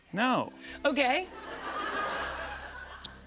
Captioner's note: laughter